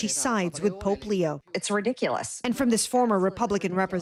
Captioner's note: speaking alternate language